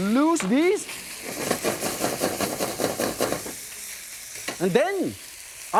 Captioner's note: pork sputtering